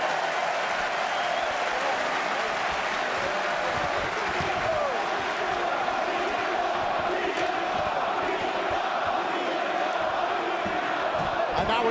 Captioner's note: crowd cheering